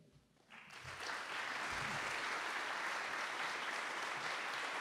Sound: audience applauds

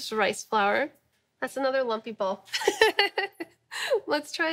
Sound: laughing

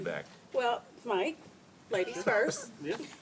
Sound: laughs

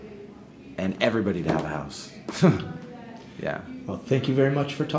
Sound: chuckling

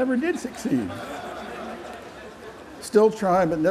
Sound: laughter

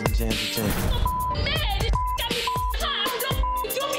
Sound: beep

